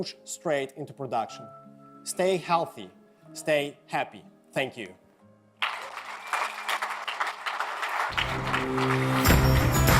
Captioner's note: cheering and Applause